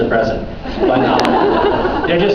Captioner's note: laughs